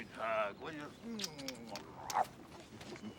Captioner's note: kisses